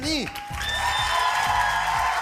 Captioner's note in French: acclamations